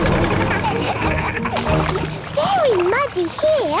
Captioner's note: laughing